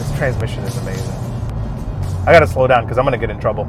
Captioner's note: upbeat music; car engine roaring